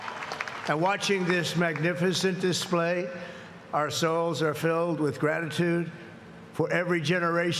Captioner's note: cheers and applause